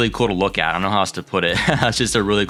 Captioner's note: laughs